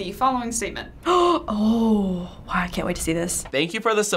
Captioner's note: gasps